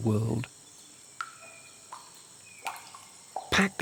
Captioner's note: dripping